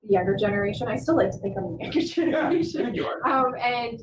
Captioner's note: laughter